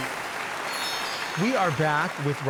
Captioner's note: audience applauding